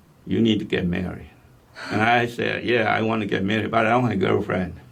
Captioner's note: laughs